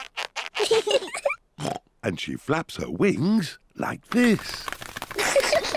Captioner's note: both laugh; oinks; both laugh